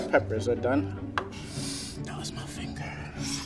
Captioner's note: inhales sharply